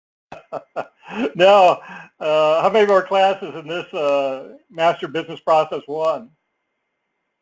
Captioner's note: laugh